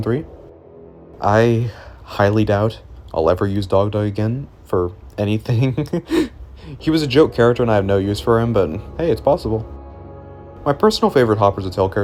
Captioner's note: laughs